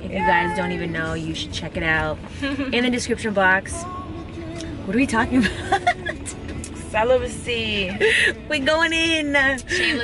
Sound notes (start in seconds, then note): 5.4 laughing